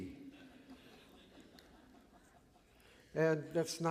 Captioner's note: laughter